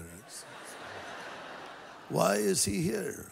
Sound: laughter

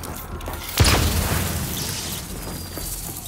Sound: gunfire

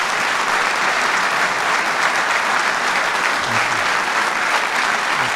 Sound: applause

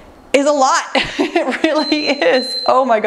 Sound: timer beeps

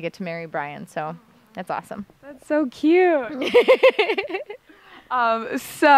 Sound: laughter

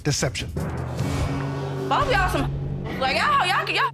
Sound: audience exclaiming

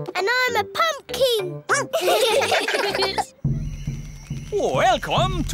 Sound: all giggling; barks

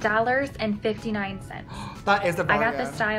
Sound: gasps

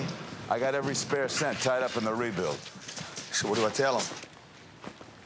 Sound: none

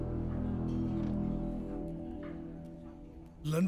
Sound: door opens

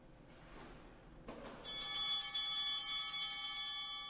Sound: altar bells ringing

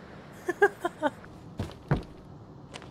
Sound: laughter

